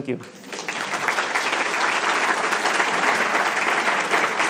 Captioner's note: audience clapping